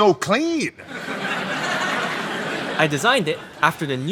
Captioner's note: audience laughing